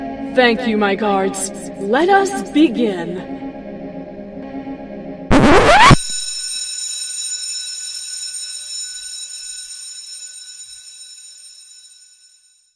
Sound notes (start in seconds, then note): 5.3 sudden record needle scratch!; 5.7 alarm Bell Ringing! Audio fades out